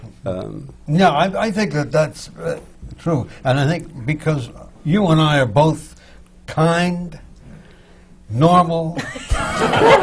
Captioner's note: laughter